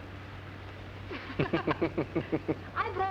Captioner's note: laughing